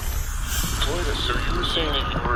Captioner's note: transition sting, distant sounds of hectic Pheenis activity